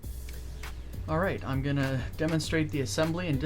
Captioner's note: voiceover